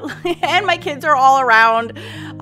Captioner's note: laughing